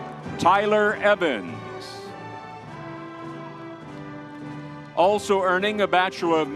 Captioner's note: crowd cheering; crowd cheering